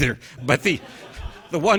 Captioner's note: audience laughing